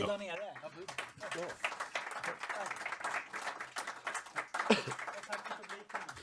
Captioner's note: applause